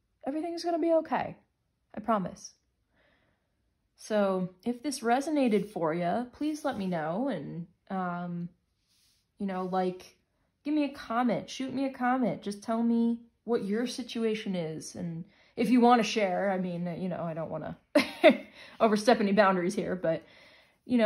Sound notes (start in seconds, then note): 18.0 chuckles